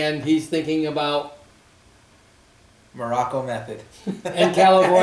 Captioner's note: laughs